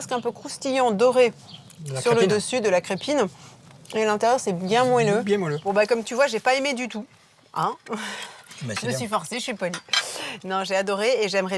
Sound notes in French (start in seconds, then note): none